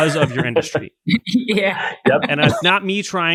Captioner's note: laughs